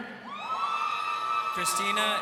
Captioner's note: crowd cheering